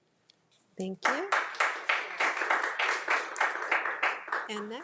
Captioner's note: crowd applauding